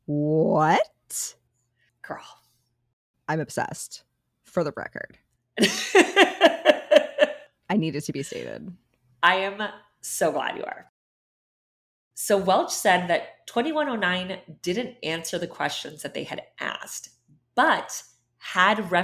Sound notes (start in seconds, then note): 5.6 laughing